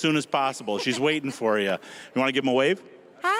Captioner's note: laughing